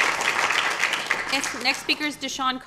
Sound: applause

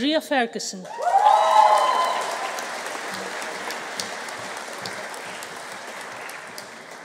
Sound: audience cheering; audience applauding

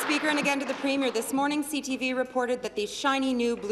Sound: applause

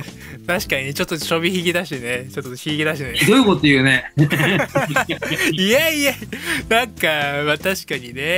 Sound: laughs

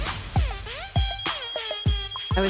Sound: beeping

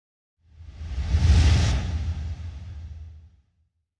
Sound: swooshing

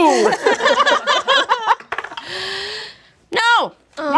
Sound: all laughing

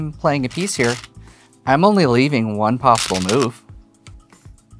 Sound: stones rattling

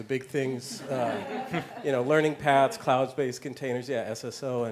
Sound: laugh

